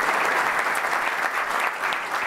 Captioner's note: applause